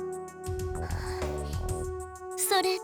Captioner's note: worried breath